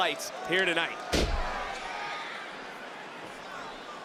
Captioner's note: thuds